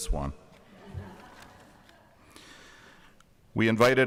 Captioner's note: audience chuckling